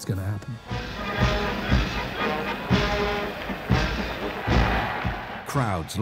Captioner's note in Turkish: yürüyüş grubu çalıyor; kalabalık tezahürat